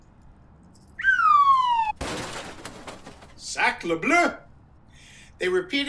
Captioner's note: crashing sound